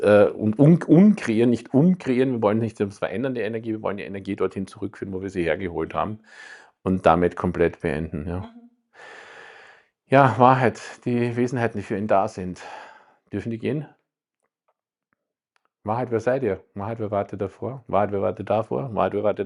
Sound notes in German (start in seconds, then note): 8.9 seufzt; 9.4 japst